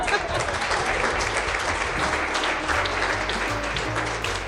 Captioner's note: applause; crowds laughs; jazzy music